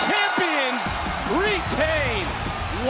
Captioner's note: bell rings